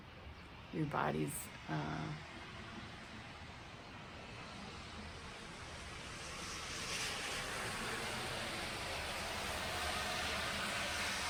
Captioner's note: car in background